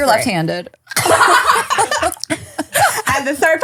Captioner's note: laughing